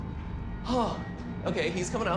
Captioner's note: gaspy